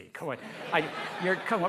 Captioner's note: laughter